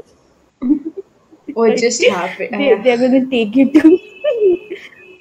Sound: starts giggling

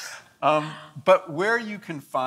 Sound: laughs

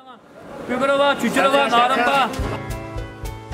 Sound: speaking Uyghur Language

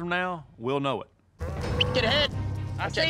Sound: whistle

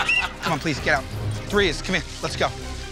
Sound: whistle blows

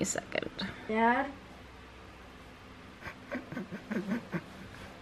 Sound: snickers

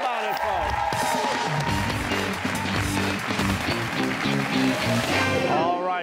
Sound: cheers and applause

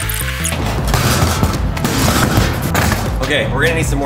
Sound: safe thudding

